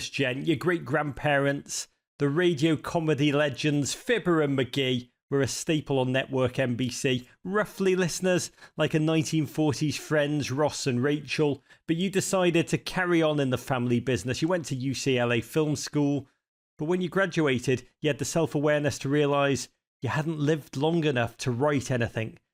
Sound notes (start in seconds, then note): none